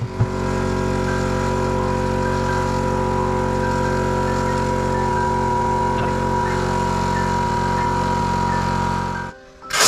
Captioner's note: mini compressor sound